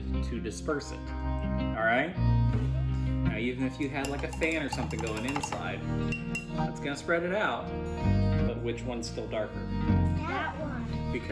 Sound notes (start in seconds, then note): 4.0 clinking